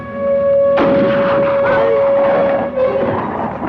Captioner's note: gun fires